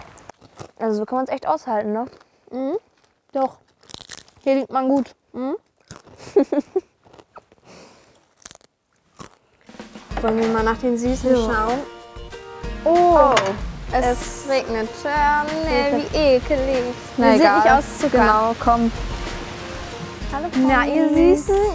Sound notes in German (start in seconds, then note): 2.8 Knuspern; 6.2 Kichern; 7.1 Knuspern, leises Kichern